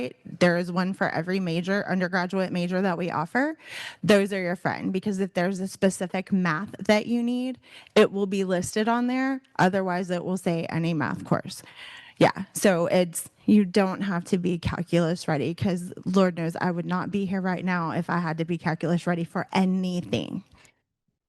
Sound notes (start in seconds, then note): none